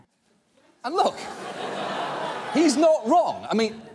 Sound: audience laughing

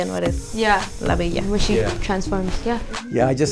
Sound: speaks in foreign language

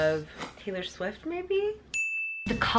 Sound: whimsical chime

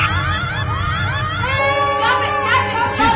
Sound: irska cries

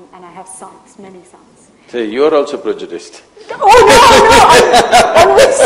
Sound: laughs

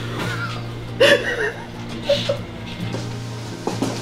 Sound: laughing

